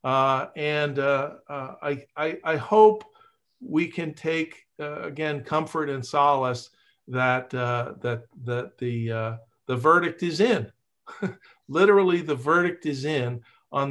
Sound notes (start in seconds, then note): 11.1 laughs